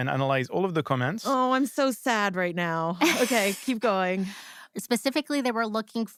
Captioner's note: laughs